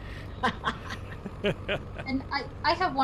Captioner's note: Wally laughs; laughs